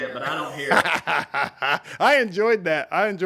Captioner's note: laughs